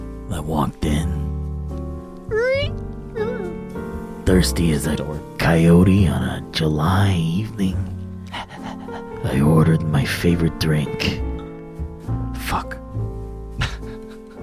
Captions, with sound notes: I walked in, (door squeak) - Door. - Thirsty as a coyote on a July evening. (dog pants) I ordered my favorite drink, Fuck.